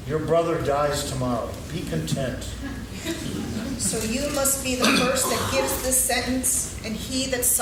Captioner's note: laughing